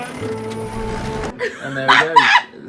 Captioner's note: laughs